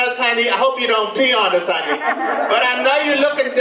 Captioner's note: audience laughs